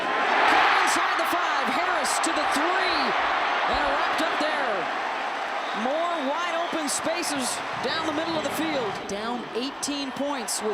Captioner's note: applause